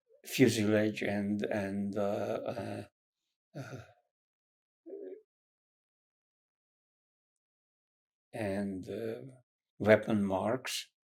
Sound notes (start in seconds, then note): 2.0 pauses 6 seconds